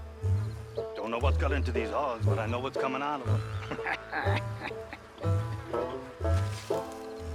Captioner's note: laughs